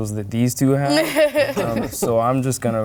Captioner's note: laughter